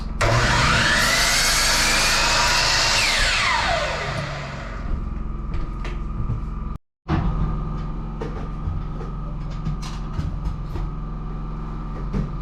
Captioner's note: motor whirring